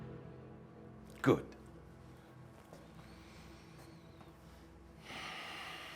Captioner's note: sighs